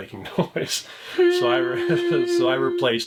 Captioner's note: humming sound